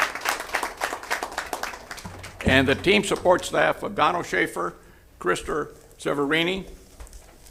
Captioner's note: applause